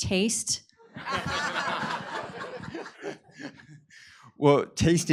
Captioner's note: laughter